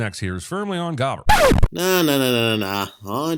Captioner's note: record scratch